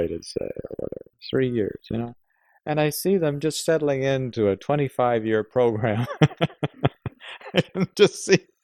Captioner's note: laughs